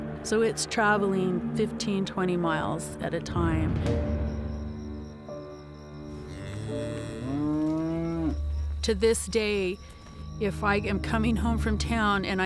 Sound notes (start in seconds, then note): 4.0 tense music; 6.1 cows lowing